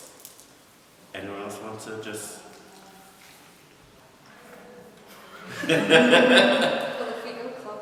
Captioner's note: laughter